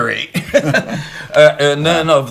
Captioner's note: both laughing